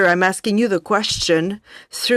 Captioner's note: speaking French